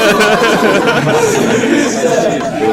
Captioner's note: haha